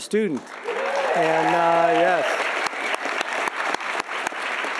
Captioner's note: audience applauding